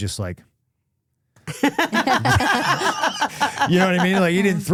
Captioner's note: laughing